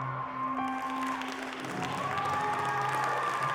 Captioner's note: cheering and applause